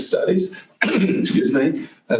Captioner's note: coughs